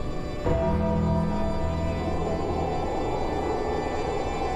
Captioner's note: wind whooshing